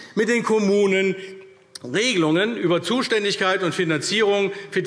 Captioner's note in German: none